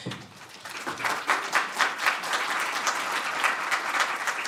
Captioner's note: applause